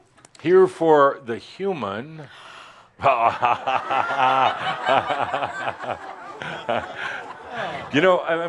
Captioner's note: laughter as the next person is shocked to get the microphone